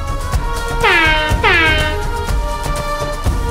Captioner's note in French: corne de brume